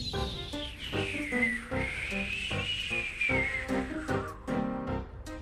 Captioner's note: makes whistling wind sounds